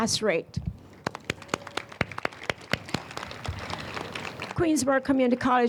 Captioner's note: audience applauds